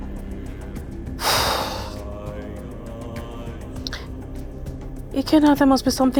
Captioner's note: sighs